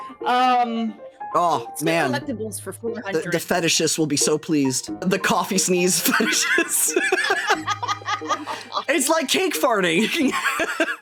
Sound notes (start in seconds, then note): 7.0 wheeze Laugh; 7.8 cackling; 10.2 laughing